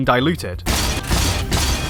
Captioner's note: bang